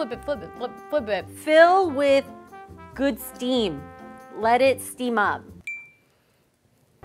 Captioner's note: ping